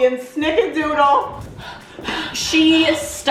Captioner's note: gasping